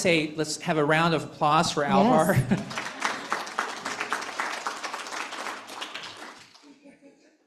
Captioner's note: applause